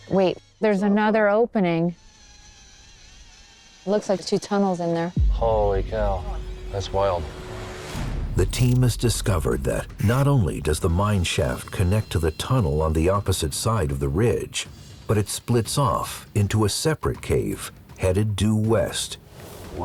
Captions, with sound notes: Wait, there's another opening. [BUZZING] It looks like two tunnels in there. Holy cow. That's wild. The team has discovered that not only does the mine shaft connect to the tunnel on the opposite side of the ridge, but it splits off into a separate cave headed due west.